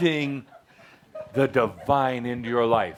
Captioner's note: laughter